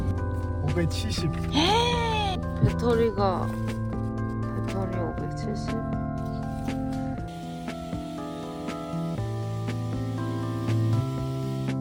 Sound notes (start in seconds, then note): 2.4 my heartbeat now